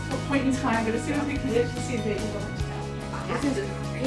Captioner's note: voice fading out